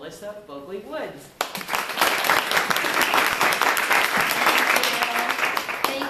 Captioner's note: applause